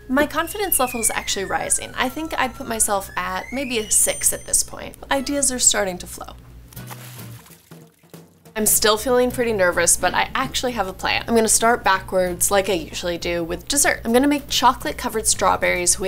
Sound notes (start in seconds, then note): 6.7 water splashes; 6.8 upbeat music